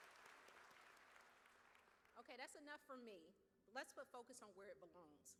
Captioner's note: cheers